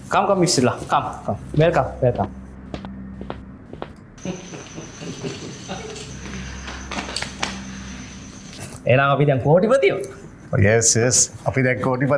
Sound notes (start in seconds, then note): 2.5 laughing